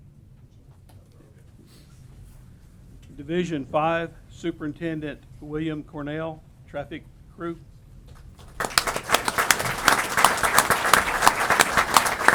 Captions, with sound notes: Division five. Superintendent William Cornell, traffic group. [APPLAUSE]